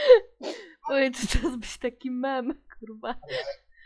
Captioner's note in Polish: w tle słychać poprzednie nagranie